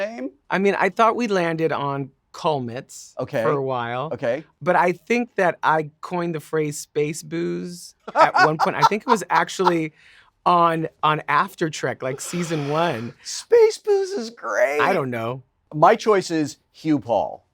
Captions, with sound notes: I mean, I thought we landed on Culmets for awhile. Okay. But I think that I coined the phrase Space Boos at one point. [Wil laughing] I think it was actually on After Trek, like Season 1. Space Boos is great. I don't know. My choice is Hu-Paul.